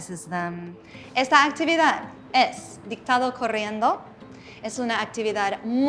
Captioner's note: in Spanish